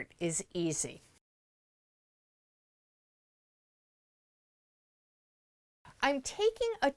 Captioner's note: no Sound Present